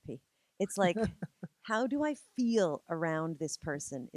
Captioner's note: laughing